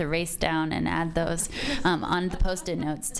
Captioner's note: audience laughs